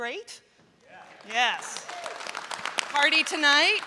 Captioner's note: applause